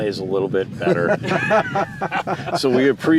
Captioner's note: laughter